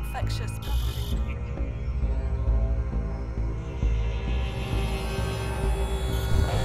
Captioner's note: intense music; static buzzing